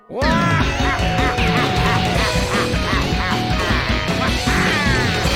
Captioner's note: maniacal laughing, triumphant music